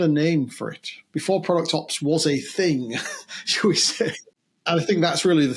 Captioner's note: chuckles